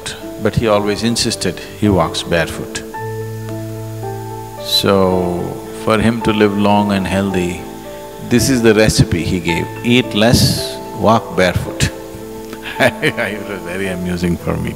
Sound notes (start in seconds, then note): 12.5 laughs